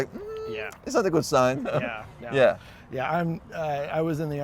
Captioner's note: güler